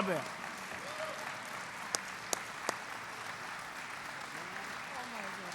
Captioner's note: applause